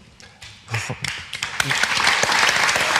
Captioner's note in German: Applaus